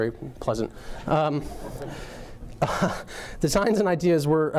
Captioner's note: audience laughing